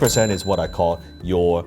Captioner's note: cash register ding